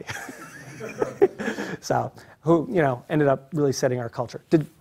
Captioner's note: laugh